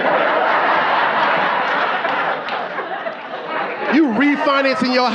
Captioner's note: audience laughing